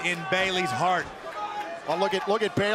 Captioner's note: crowd cheering